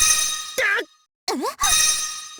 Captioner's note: pained gasp